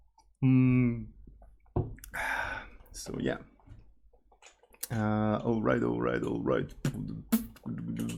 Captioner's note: slaps